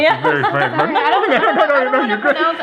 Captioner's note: laughing